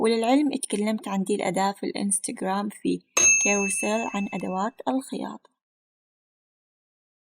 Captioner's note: in Arabic